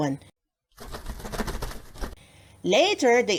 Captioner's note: flutter of wings